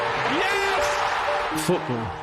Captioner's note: crowd cheering